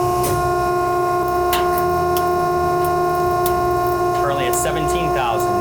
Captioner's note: machine whirring